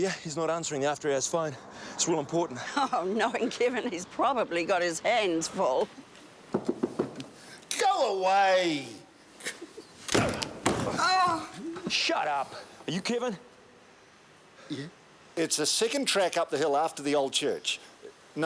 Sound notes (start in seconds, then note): 6.7 knuckles rapping; 9.4 chuckles; 10.0 door thuds; 11.4 man groans